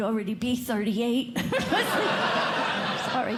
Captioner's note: laughter